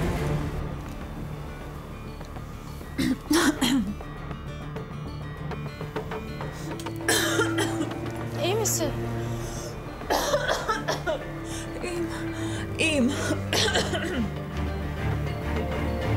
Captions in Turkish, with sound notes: (öksürüyor) İyi misin? (öksürüyor) İyiyim, iyiyim